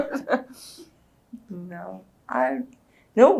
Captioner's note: laughs